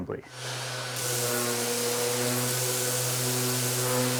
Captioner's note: sander whirring